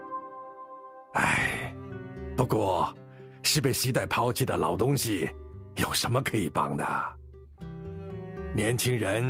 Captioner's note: sigh